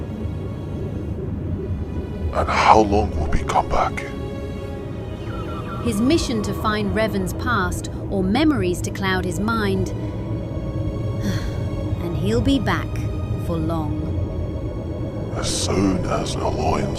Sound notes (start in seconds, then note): 11.2 sigh